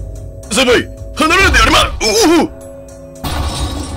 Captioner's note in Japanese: 体当たりされた音：ドゴン！; 家具の破壊音：ガシャン！